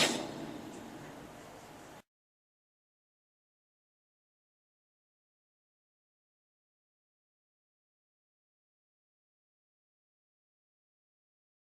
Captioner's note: silence